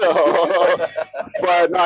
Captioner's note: laughs